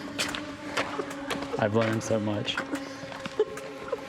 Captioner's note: laughs